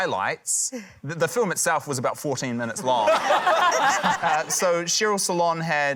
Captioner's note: laughter